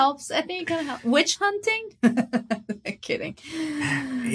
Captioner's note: chuckles